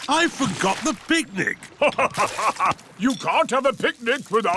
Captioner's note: laughs